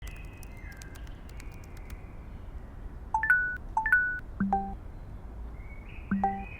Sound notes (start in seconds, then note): 0.0 text message clicking; 2.8 notification pings